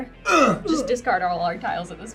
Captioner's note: grunt